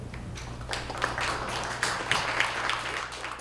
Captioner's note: applause